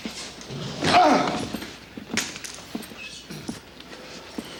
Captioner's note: TJ groans